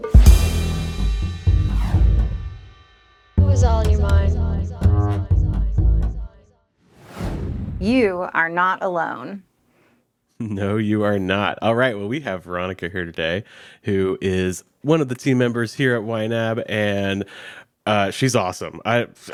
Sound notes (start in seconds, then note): 6.9 air whooshing